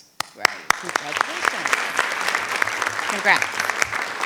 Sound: applause rings

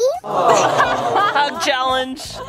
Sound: crowd awwing; female laughing

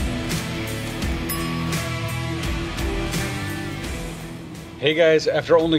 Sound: bell ringing

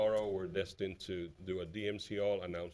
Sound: none

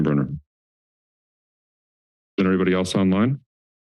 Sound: silence

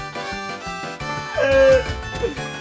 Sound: weird animal sound

